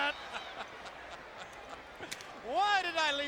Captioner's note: Tony laughs